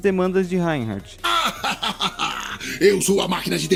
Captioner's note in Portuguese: ha ha ha ha ha